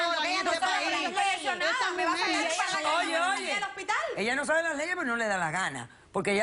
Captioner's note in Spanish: Comentarios al unísono